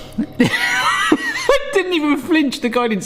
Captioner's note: laughs